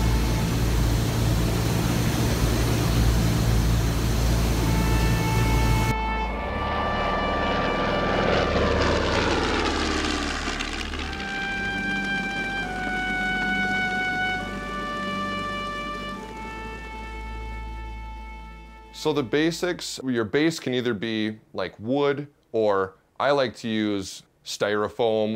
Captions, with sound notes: (airplane propeller whirring) (airplane motor) So the basics. Your base can either be wood, or I like to use styrofoam